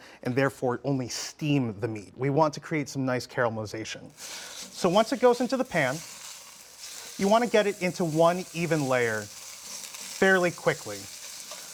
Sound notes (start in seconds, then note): 3.7 sizzling